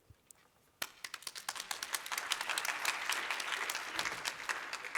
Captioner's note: applause